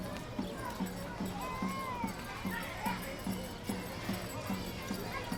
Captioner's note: street noise